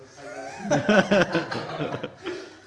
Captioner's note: laughter